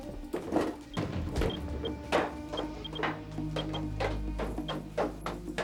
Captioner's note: geiger counter beeping